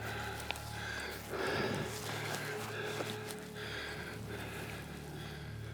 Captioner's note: breathing heavily